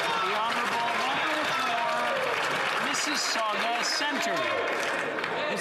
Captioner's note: some Applause